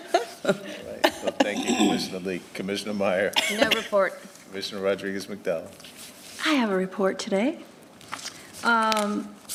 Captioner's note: laughter